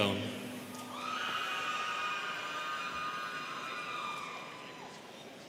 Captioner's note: students cheering